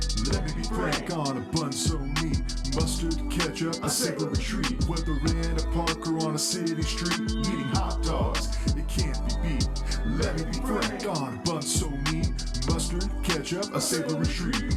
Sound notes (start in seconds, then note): none